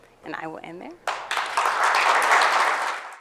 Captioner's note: applause